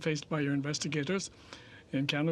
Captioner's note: speaking French